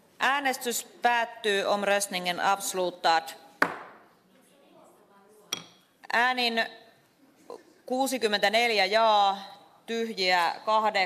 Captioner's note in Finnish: nuijan kopautus